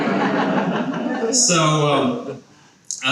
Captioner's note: people laughing